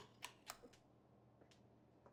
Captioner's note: lights clicking on